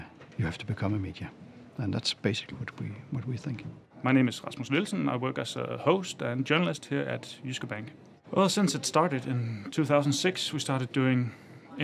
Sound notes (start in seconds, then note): 4.2 voiceover